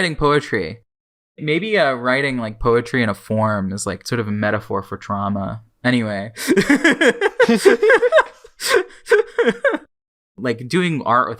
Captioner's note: both laugh